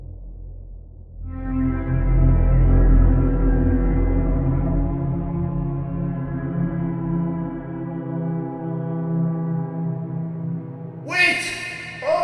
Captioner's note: distant Howl